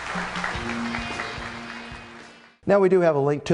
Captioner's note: applause